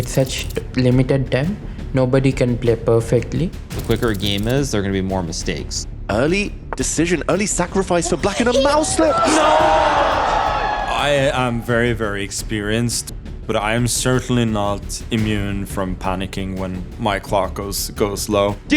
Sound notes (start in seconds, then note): 9.1 crowd groaning